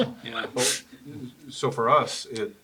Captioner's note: laugh